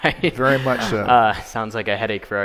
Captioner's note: laughing